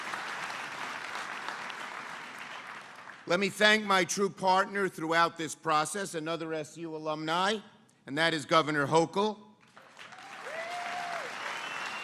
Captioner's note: applause